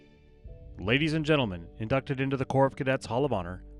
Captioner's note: voiceover